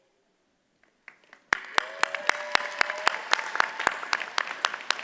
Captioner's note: audience applauds